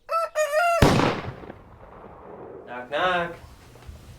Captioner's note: rooster crows; gunshot blasts